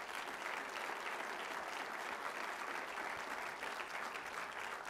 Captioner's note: clapping